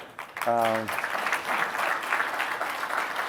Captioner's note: applause